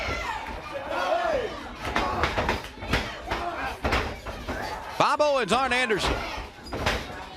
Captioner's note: crowd cheering